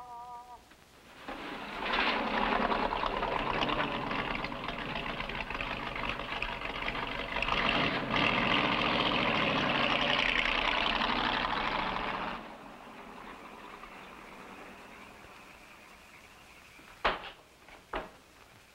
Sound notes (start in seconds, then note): 2.1 engine rumbling